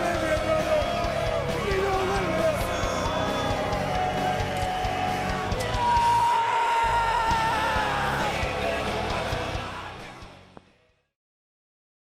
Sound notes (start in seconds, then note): 0.0 crowd boos; 6.3 yelling